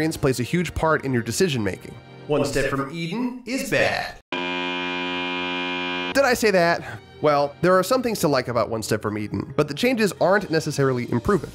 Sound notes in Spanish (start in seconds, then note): 4.3 Buzzer